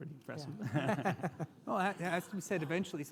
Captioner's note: all laugh